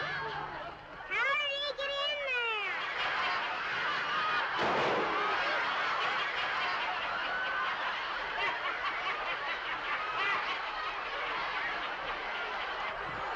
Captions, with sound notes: How did he get in there? ( bang ) ( laughing )